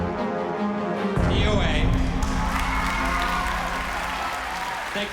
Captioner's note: cheering